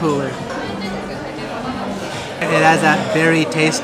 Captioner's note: savoring